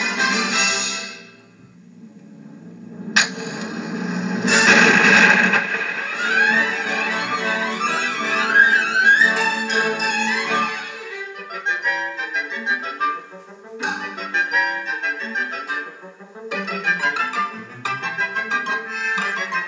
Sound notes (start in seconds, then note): 2.4 sizzles; 4.7 boom